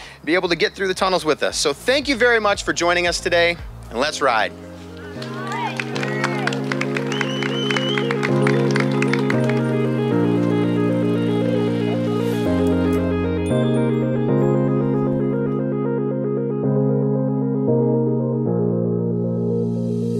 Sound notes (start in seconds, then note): 4.8 atmospheric music; 5.1 cheering